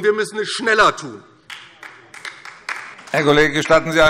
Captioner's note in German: Beifall DIE LINKE